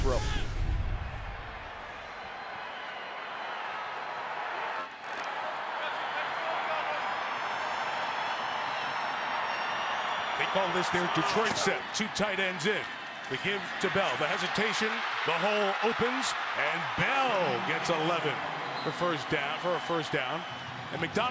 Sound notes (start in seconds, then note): 1.1 cheering